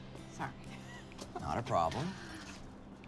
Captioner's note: laughing